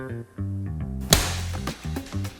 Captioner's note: slap